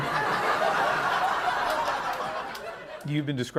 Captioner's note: laughter